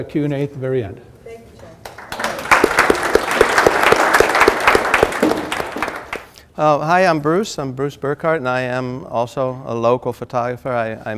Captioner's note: applause